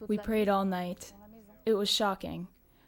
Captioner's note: speaks in a foreign language